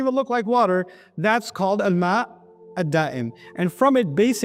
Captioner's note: Arabic